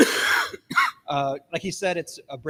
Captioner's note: person coughs